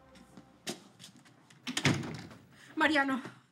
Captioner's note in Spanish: Sonido de la puerta